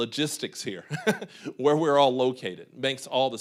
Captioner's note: laughing